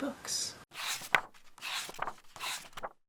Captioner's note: pages turning